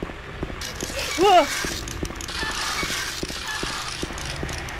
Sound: loud mechanical noise

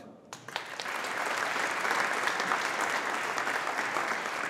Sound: audience applauding

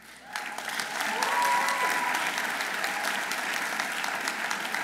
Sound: audience applauding

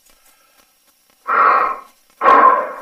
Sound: breathing

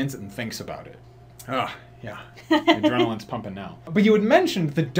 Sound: laughs

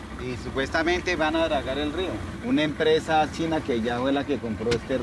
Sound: speaking in foreign language

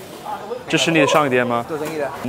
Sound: Mandarin

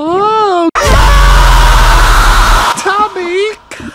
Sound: raging Scream

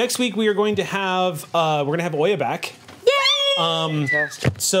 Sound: group cheers

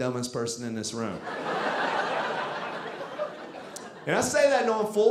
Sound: audience laughing

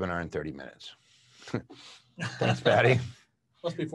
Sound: laughs

